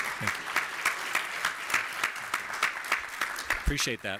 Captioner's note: applause